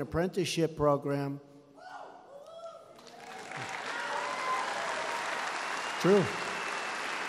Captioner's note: applause